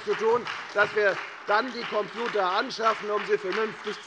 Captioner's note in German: Beifall bei der FDP und der SPD